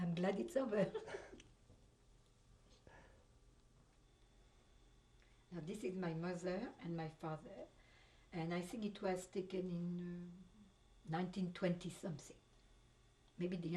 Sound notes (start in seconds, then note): 0.8 laughs